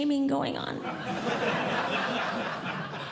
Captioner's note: audience Laughing